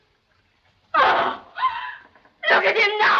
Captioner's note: gasp